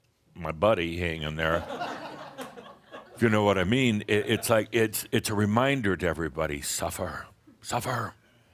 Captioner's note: laughter